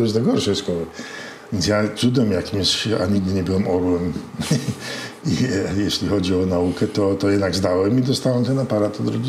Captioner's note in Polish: śmiech